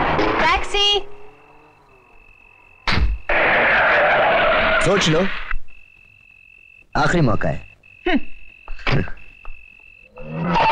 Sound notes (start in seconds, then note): 2.8 car Door Closes; 3.2 tire Screeching; 8.8 chuckling